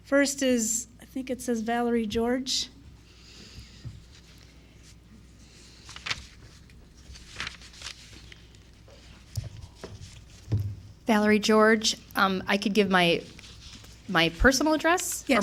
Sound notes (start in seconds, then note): 5.4 paper rustling